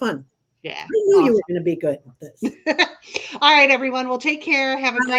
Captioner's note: laughing